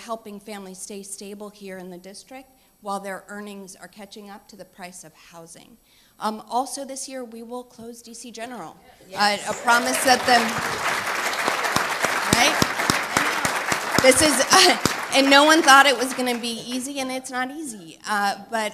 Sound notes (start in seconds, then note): 12.2 applause